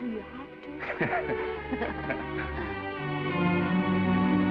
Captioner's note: Esther laughs; Norman laughs; gentle music